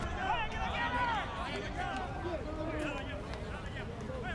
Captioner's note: players yelling